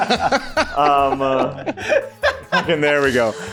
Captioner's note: is DYING of laughter